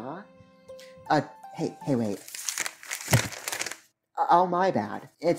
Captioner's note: flips thru papers, slaps them down